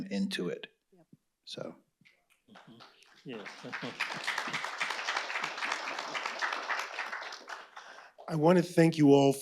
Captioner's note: applause